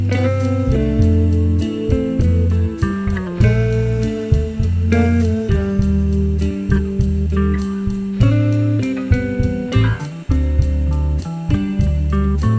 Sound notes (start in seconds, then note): 9.1 back bump